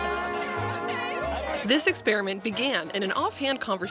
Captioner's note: applause